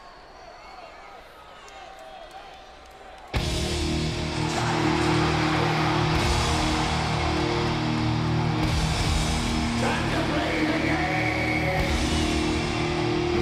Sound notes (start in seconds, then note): 3.3 crowd cheering; 3.4 dramatic music